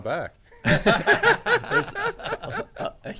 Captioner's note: men laughing